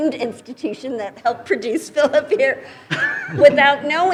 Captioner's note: chuckles